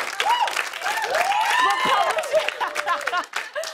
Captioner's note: cheers and applause; laughter